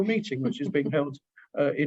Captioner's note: laughs